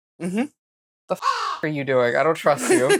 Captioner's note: caw